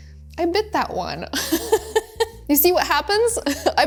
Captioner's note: laughs